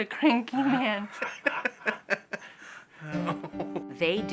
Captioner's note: laughs